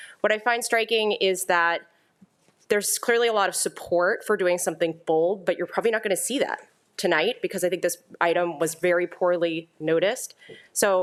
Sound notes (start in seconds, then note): none